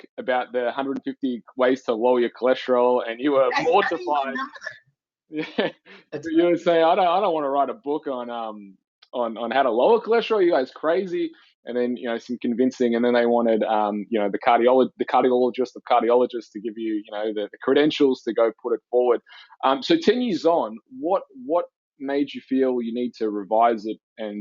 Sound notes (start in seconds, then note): 4.2 speaks distorted; 5.3 laughs